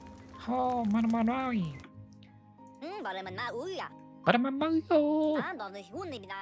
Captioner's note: silly Beaver Noises